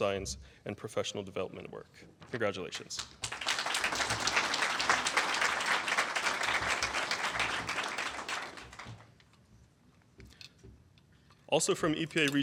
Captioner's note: applause